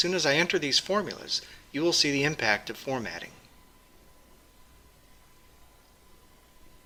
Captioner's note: pause